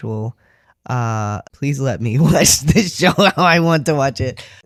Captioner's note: laughing